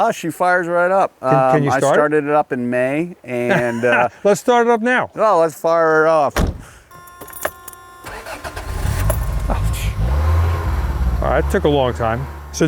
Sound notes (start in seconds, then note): 3.3 laughs; 6.3 door thudding; 6.4 keys clanking; 6.4 engine beeping; 8.0 engine sputtering